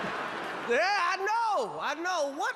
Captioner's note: crowd laughs